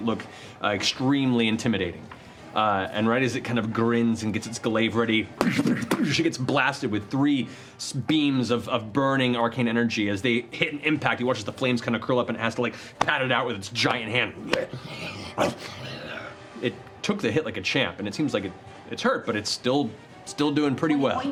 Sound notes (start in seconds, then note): 14.4 snarling